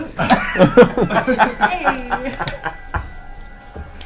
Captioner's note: all laugh